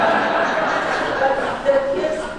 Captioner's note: audience laughing